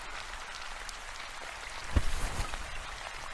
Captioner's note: footsteps gradually slowing and stopping